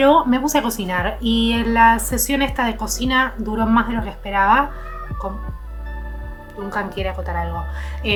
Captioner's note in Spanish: maullido